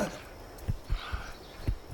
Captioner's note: heartbeat